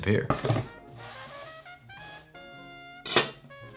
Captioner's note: board sliding